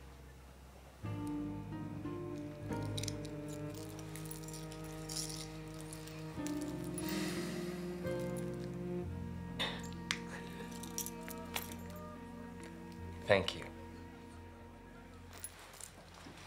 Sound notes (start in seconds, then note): 2.7 necklace rattles; 7.0 sighs